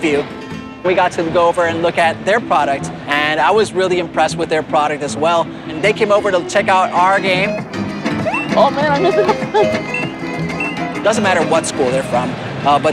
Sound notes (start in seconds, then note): 8.1 laughs; 8.3 game beeping